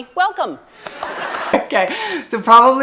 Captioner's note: people laughing